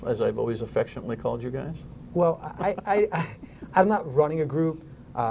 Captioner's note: laughter